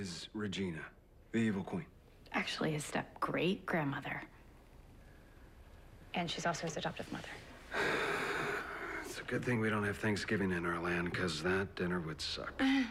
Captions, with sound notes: SO HIS... STEP-GRANDMOTHER IS REGINA, THE EVIL QUEEN. ACTUALLY, HIS STEP-GREAT-GRANDMOTHER. AND SHE'S ALSO HIS ADOPTIVE MOTHER. (sighs) IT'S A GOOD THING WE DON'T HAVE THANKSGIVING IN OUR LAND, 'CAUSE THAT DINNER WOULD SUCK.